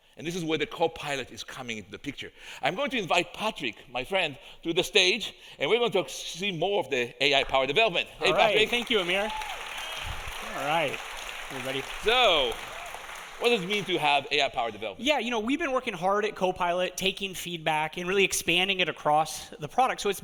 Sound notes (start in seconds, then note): 8.2 audience applauding; 9.7 audience cheering